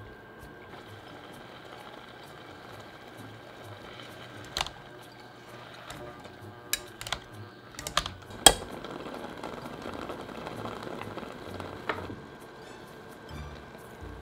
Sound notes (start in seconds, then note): 4.6 masher clinking; 8.1 simmering